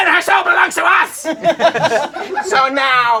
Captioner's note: crowd laughing